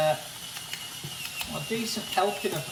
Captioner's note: pepper grinder spinning